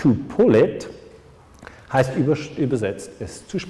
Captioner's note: in german